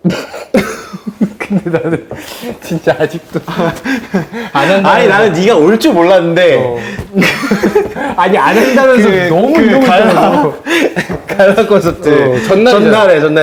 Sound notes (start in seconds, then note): 6.7 cracking up; 10.6 giggling